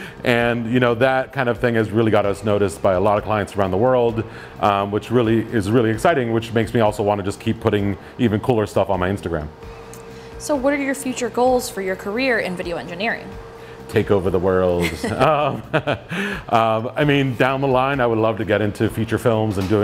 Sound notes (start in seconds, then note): 14.7 both laugh